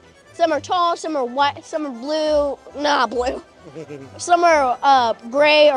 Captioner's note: chuckle